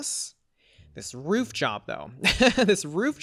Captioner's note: laughs